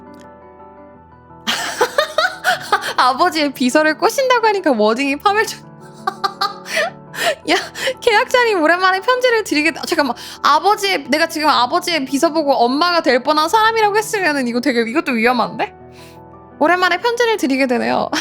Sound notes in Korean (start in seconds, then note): 1.4 웃음; 6.6 헉 소리